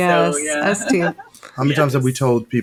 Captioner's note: chuckling